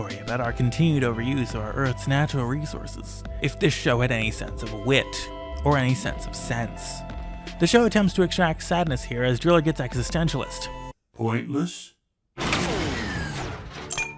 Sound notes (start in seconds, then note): 11.7 mechanical shutdown sound